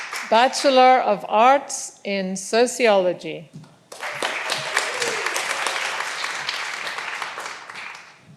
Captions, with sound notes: Bachelor of Arts in Sociology. (all applauding)